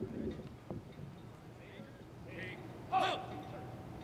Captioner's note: Officier crie un ordre